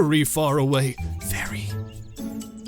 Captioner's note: low voice